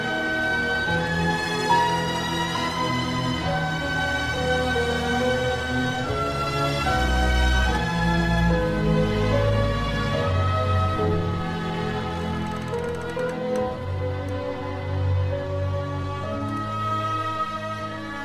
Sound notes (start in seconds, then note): 12.1 wood creaking